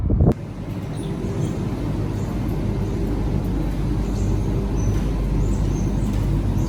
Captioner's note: washing machines and rotary dryers hum loudly